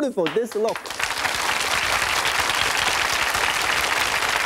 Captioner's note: audience clapping